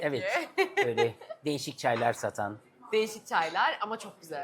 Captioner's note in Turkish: kahkaha